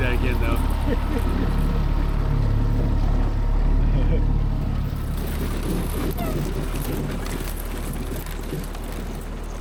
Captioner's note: water splashing